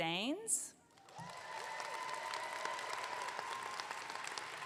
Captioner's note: audience clapping